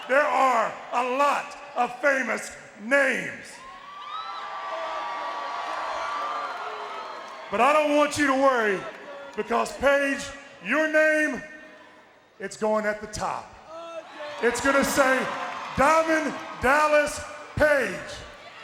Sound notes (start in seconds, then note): 3.5 audience cheering; 13.6 crowd cheering